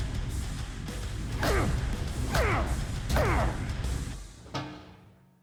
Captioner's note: grunting